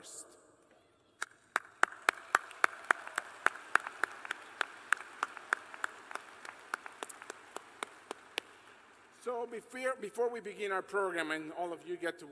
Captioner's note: applause